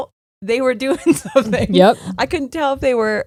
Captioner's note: laughing